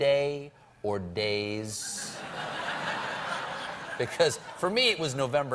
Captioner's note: laughter